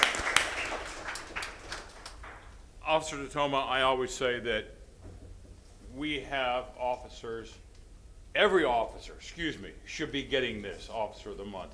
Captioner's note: applause